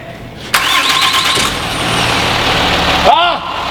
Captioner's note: starting engine